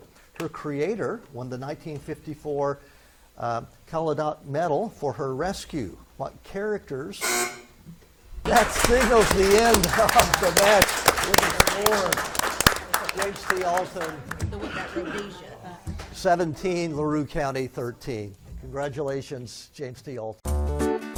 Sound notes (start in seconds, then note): 7.2 buzzer buzzes; 8.4 spectators claps